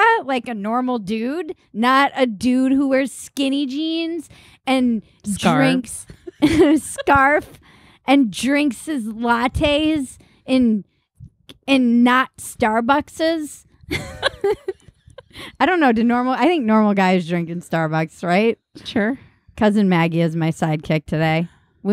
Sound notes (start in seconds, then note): 13.9 laughing